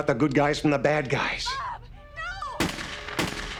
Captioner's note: gunshots